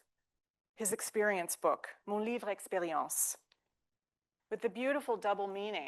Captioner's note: speaking French